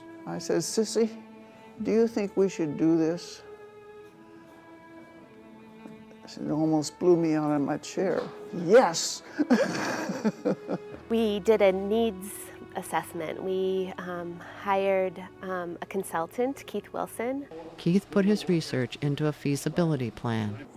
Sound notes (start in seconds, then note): 9.2 laughing